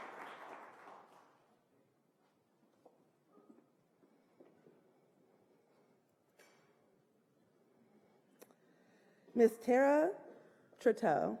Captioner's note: applause